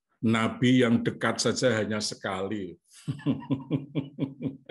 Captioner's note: laughs